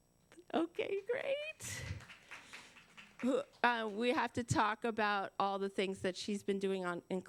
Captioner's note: applause